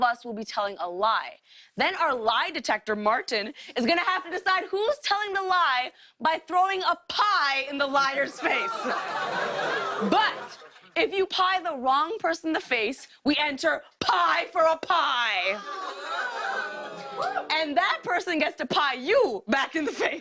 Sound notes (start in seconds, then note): 15.6 audience "Oohs"